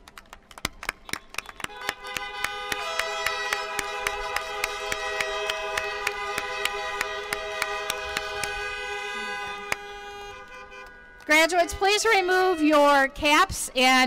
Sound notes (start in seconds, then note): 0.1 applause; 3.0 car horns